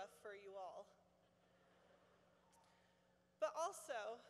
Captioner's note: laughter